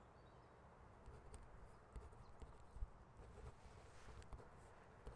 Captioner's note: pen scratching